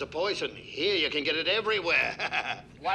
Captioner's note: laughs